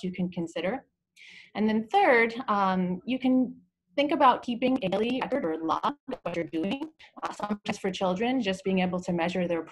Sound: audio distortion

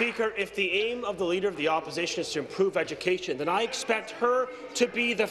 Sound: applause

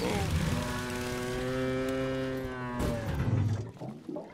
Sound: moo-ing

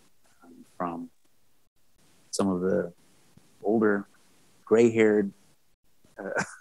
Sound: laughs

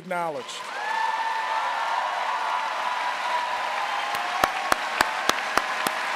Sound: audience cheering and applauding

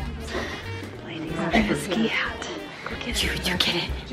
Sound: mom, whispering; whispering

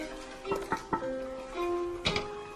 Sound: suspense music; knocking; door opening

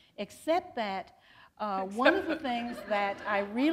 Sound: laughter

